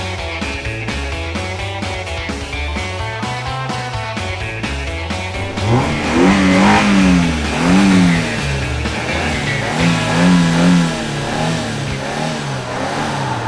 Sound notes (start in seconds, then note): 5.3 revving Engine; 12.4 squealing The Tires 🛞